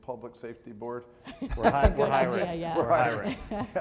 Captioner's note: laughs